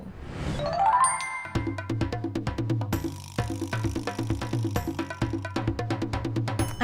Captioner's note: logo whooshes; playful percussion music